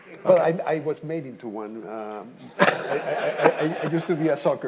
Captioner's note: audience laughing